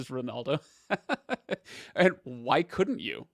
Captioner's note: laughs